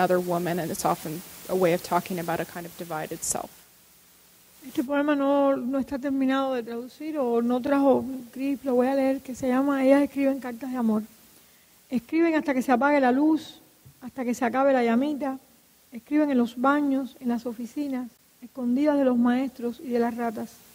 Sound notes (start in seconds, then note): 5.0 speaking in Spanish